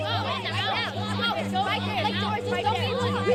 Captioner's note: kids taunting